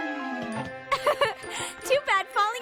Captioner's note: laughs